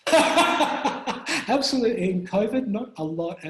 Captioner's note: laughs